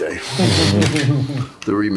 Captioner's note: all laugh